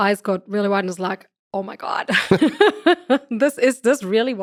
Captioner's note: laughs